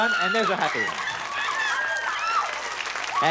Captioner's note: screams; audience applause